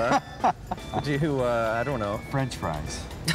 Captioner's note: laughing